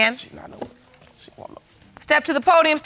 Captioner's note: mutters